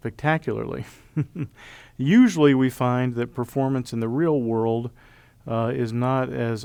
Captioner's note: laugh